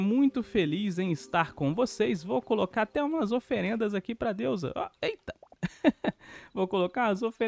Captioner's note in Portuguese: risadas